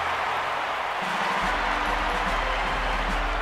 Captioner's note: crowd cheers